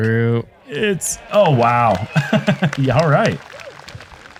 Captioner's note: laughs